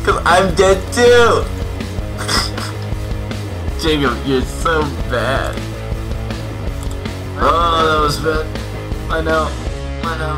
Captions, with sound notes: 'Cause I'm dead, too. (Snickering) Jacob, you're so bad. (Groans) That was bad. I know, I know.